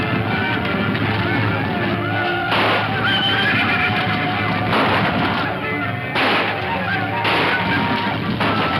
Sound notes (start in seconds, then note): 2.7 horse neighs